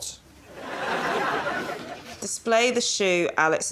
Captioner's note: laughter